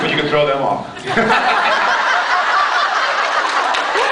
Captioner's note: laughs